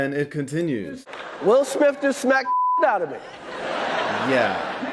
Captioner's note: beeps; audience laughing